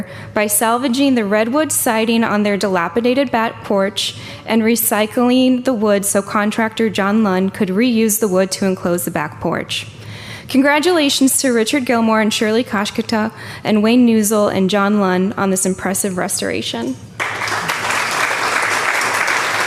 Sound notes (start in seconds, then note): 17.1 applause